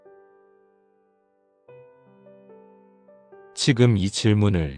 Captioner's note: silence